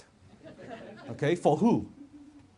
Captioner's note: audience laughs